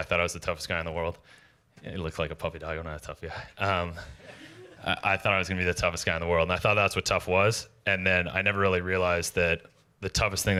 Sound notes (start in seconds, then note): 4.0 laughter